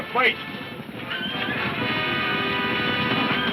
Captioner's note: dramatic music; horses neighing